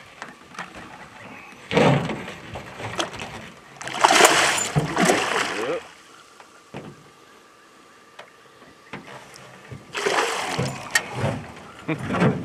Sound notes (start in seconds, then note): 0.1 fish splashing; 3.1 clattering; 6.2 fish splashing; 9.9 fish splashing